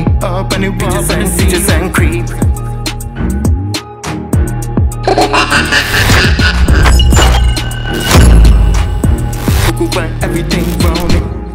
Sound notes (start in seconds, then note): 5.0 villainous Laugh